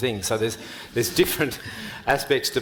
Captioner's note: panel and audience laughing